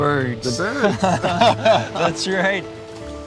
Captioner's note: laughing